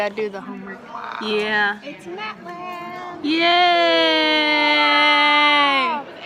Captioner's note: cheer